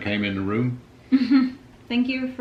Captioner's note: laughing